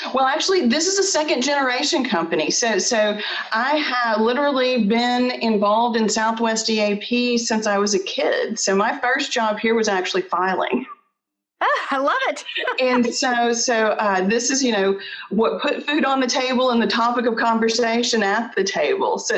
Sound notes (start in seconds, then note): 12.4 chuckles